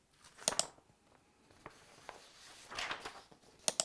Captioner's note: click